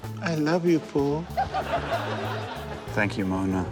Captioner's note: laughter